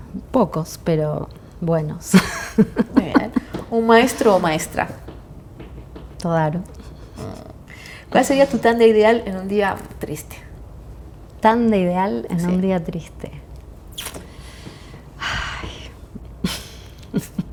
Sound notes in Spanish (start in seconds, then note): 2.1 risas; 12.3 suspiro; 13.0 risas